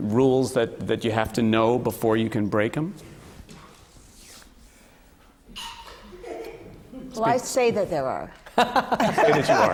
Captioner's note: laughter